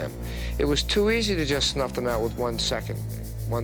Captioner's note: voiceover